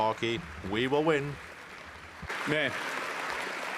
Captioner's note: cheering and Applause; speaking French